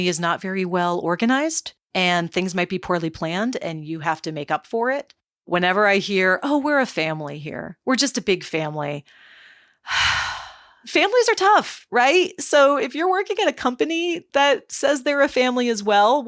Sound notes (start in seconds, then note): 9.8 sighs